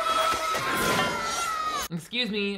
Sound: Bobby screaming

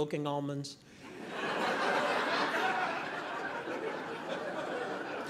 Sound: audience laughing

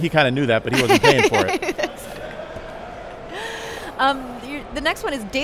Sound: laughs

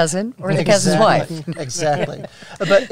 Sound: laughs

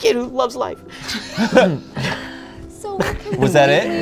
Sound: all laugh

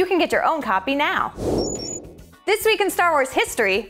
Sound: beeping

